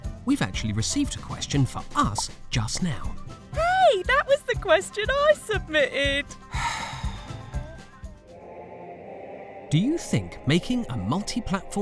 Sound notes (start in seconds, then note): 6.4 sighs